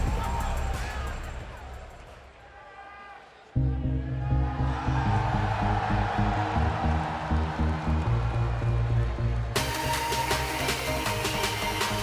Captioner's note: crowd cheering